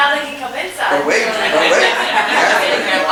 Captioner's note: audience chuckles